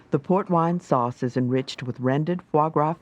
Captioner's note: voiceover